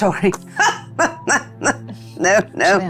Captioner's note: laughs